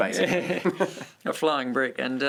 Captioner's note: laughter